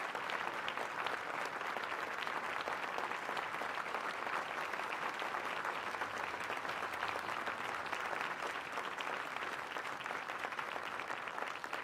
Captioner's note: applause